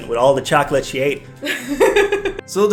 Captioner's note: laughs